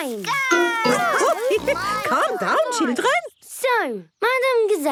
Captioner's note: laughing